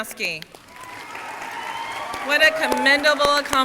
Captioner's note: crowd cheering and applauding